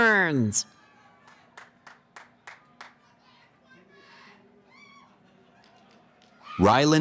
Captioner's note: cheering